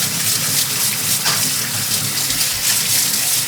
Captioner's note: water running